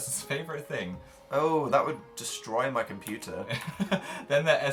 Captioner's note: laughs